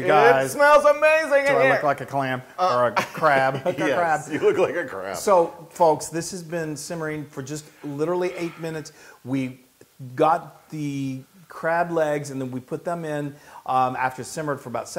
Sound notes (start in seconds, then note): 2.8 laugh